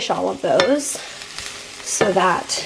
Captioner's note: sizzling sounds